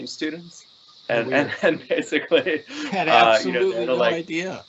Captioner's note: laughing